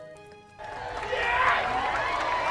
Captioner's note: cheering